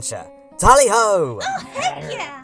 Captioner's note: Karkat grumbles